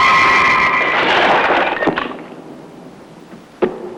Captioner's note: shatters